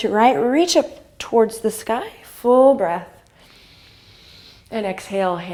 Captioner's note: inhale